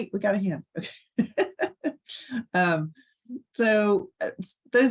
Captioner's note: chuckling